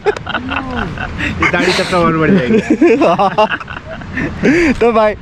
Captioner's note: laughs